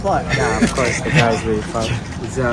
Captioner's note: laughs